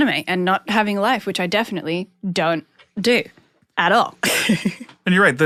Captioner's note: laughs